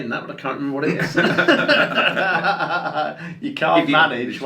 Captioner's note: laugh